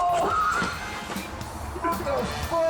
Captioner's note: club whistles; victim groans